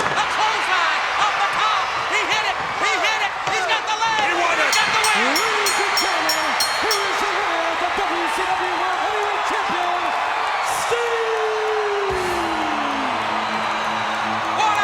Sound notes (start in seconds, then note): 4.5 bell ringing; 12.1 upbeat music